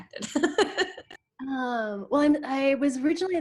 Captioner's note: laughs